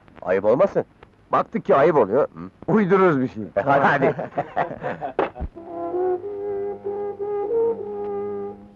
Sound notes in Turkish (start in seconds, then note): 3.6 Kahkahalar; 5.6 Fonda özgün film müziği